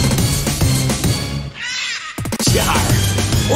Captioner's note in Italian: Parrot noises